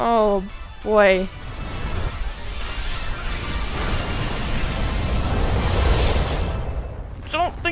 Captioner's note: extremely loud and quite deadly explosion